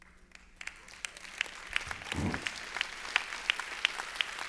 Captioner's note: applause